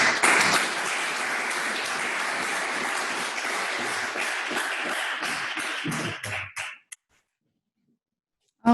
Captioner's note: applause